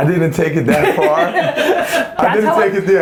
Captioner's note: laughs